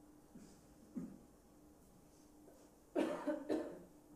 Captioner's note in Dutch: stilte